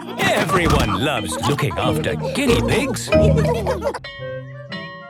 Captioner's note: laughter